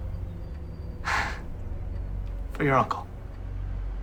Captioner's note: chuckles